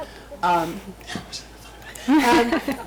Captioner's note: whispers; group laughs